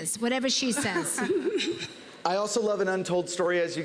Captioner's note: laughter